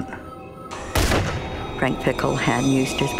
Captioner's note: gunshot